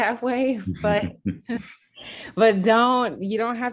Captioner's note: laugh